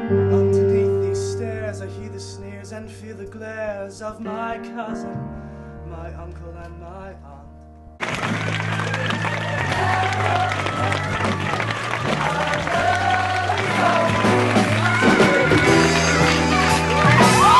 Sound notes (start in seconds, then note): 8.1 audience clapping